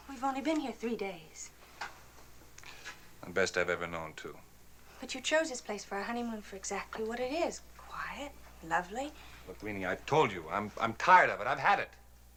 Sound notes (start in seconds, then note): none